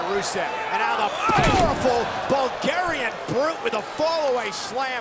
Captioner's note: body thudding